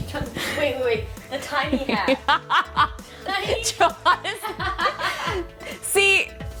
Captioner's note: laughs